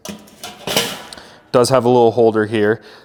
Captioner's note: metal clanking